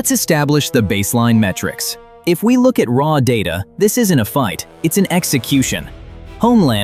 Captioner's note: thoughtful